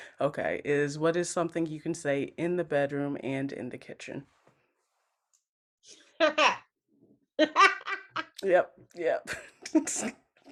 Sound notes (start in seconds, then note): 7.4 Javicia laughs